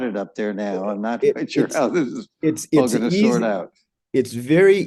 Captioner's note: laughs